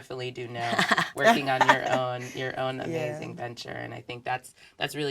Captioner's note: laugh